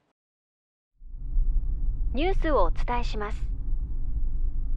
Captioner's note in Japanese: ラジオの声